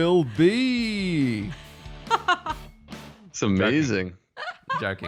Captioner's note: laughing